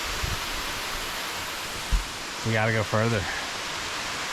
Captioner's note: water splashing